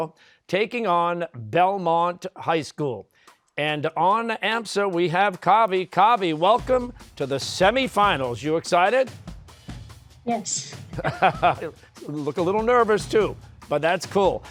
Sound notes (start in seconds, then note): 10.6 laughing